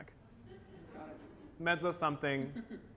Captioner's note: laughter